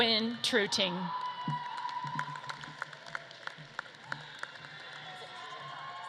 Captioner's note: audience claps and cheers